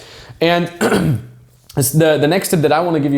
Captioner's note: clears throat